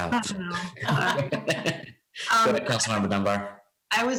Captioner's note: laughs